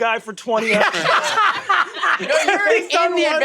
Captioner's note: everyone laughs